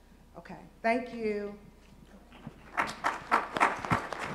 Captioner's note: applause